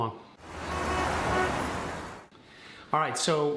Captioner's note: cars honking